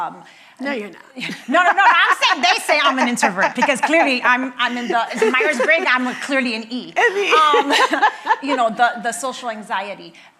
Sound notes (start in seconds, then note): 1.2 laughing; 7.8 laughs